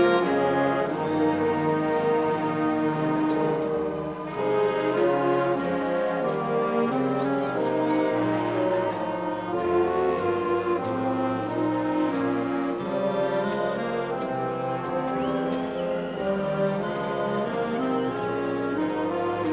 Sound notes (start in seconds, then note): 5.5 audience cheering and shouting; 11.5 orchestral music